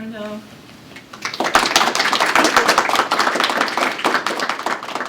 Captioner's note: applause